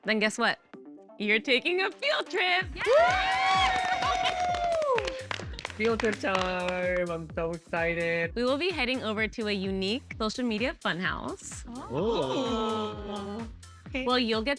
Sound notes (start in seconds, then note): 2.7 cheering